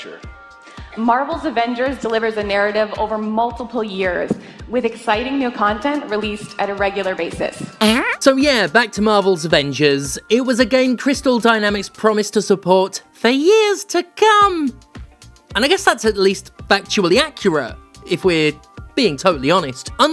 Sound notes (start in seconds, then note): 7.9 farts